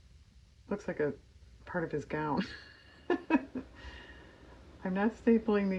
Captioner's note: laughs